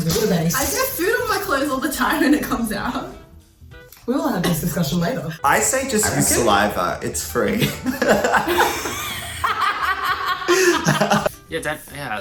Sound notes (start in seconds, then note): 7.5 laughing